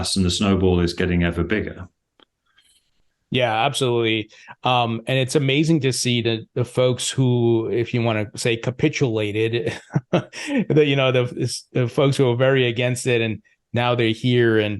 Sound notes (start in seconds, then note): 9.6 laughs